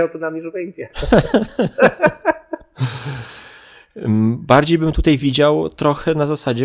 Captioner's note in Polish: śmiech